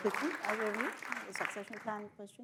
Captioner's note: audience applauds